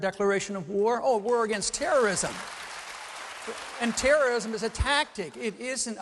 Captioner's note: applause